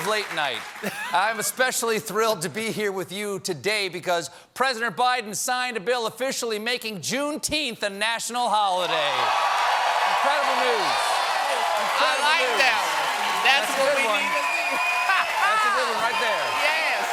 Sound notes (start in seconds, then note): 10.5 cheers and applause